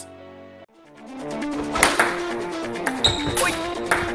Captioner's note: ball bouncing; sneakers screeches